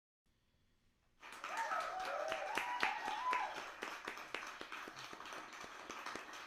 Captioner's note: applause and cheers